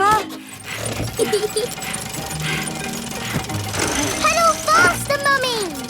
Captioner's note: mummy pig panting; peppa laughing